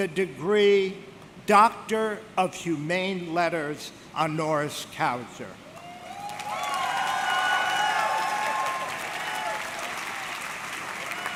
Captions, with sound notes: the degree Doctor of Humane Letters Honoris Causa. (audience cheering) (audience clapping)